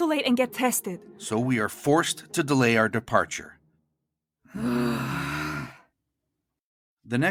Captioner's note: both groan